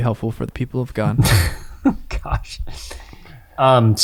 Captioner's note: laughs